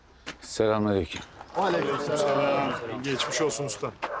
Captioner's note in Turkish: Hepsi bir ağızdan